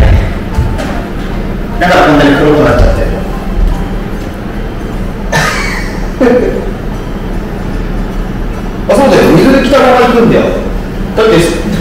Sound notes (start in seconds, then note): 5.3 laughs